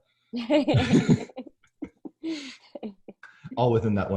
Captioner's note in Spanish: ambos se ríen